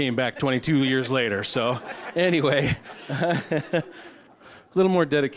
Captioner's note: audience laughing